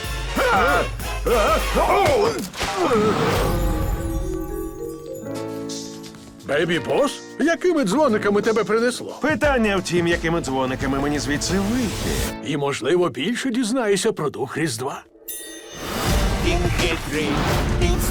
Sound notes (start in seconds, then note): 0.4 gasps; 0.4 yelps; 1.2 both grunting; 3.6 chimes tinkling; 15.2 ding